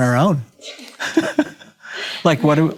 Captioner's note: laughing